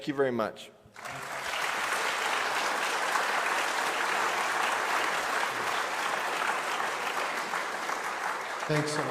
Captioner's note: applause